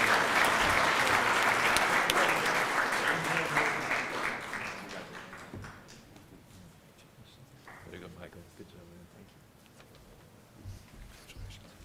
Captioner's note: applause